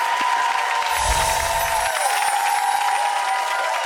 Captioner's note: audience cheering